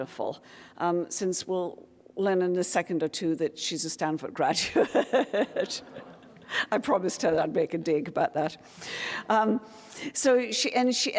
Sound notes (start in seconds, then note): 4.9 audience laughing; 5.4 laughs